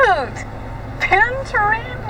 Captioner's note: giggles